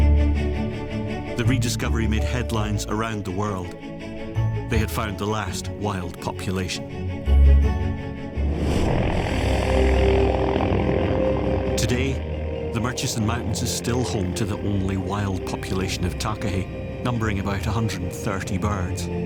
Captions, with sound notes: The rediscovery made headlines around the world. They had found the last wild population. (blades whirring) Today, the Murchison Mountains are still home to the only wild population of Takahē, numbering about 130 birds.